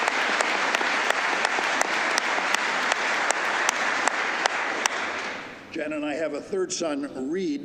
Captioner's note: applause